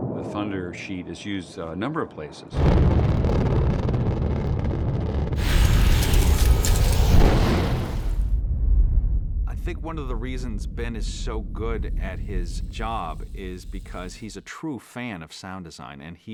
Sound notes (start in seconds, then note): 2.5 rumbling